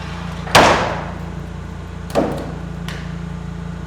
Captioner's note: wood bangs